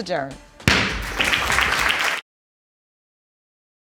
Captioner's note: audience applauding